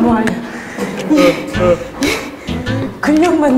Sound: panting

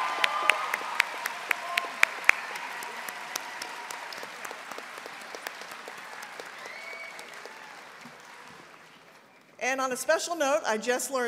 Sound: applause

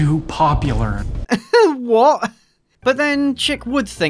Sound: laugh

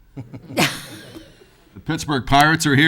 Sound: laughs

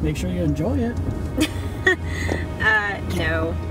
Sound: Sarah chuckles

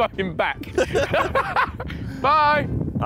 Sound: both laughing

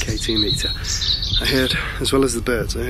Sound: birds chirping

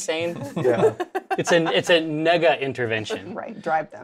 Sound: laughs

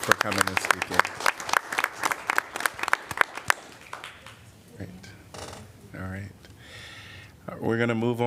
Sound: applause

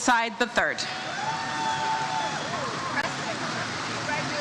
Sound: audience cheers

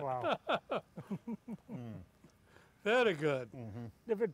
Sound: laughter

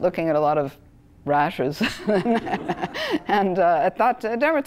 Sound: laugh

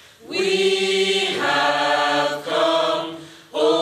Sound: none

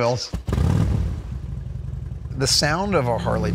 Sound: engine revving

